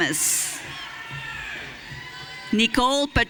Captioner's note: audience cheering